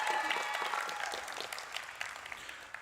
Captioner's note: applause